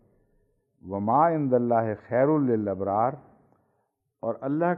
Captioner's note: Arabic